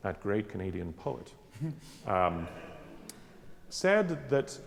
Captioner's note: laughing